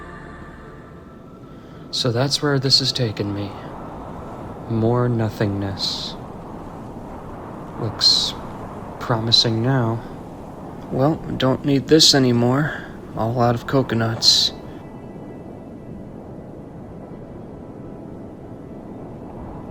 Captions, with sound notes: So that's where this has taken me, more nothingness. Looks promising now. Well, don't need this anymore. All out of coconuts. (wind whooshing)